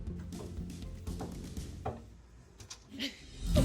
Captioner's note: knock on door